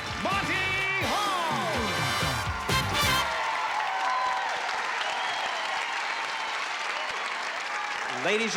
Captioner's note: applause